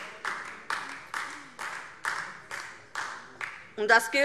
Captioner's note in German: Beifall DIE LINKE